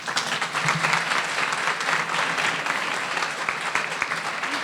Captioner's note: audience applauding